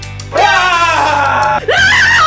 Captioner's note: screaming to enhance the Surprised Scream Scream; surprised Screams